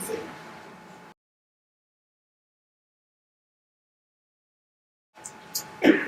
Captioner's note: silence